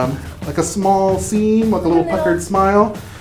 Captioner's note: snorts